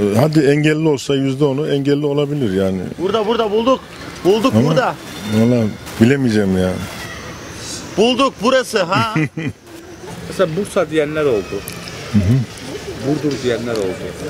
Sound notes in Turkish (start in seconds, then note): 8.9 Gülme sesi